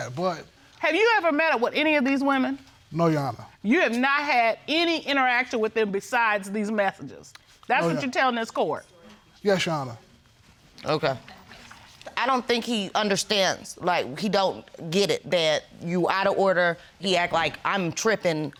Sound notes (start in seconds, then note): none